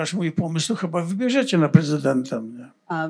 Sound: foreign language

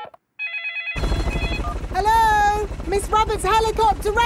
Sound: phone ringing; dialing

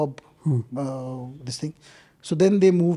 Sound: speaks in Hindi

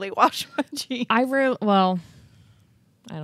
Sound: chuckles

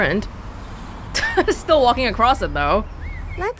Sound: chuckles

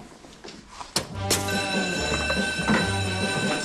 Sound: fire alarm

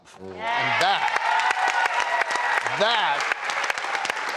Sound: applause

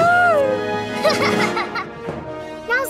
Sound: screaming; laughing

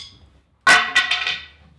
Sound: wood clatters

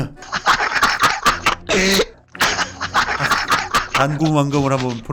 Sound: laughter

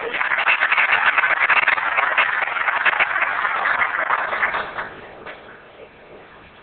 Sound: applause

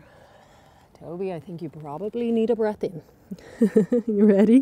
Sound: giggles

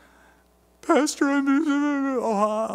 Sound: sobbing

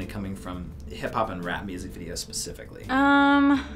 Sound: none

